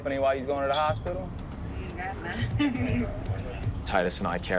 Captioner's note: laughs